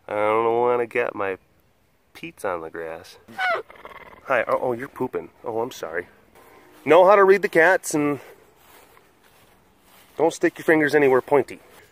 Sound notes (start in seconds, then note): 3.1 squeaks